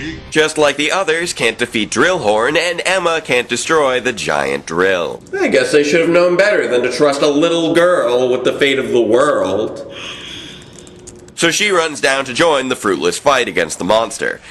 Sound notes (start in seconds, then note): 10.6 typing